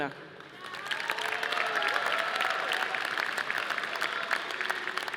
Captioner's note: audience applauding